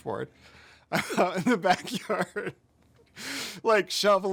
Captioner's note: laughs